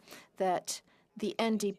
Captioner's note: speaking French